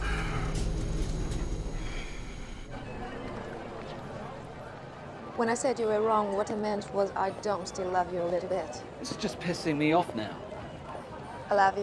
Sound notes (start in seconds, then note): 3.8 background chatter and music